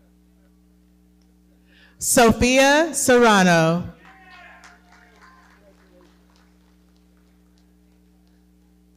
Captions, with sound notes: Sophia Serrano. - Yeah! (audience clapping) - Congratulations.